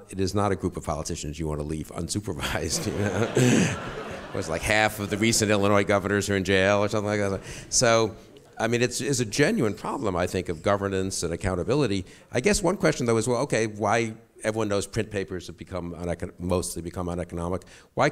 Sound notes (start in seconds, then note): 2.5 chuckles; 2.5 audience laughs